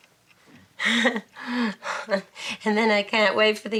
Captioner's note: Betty laughing